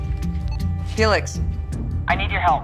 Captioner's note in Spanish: Bip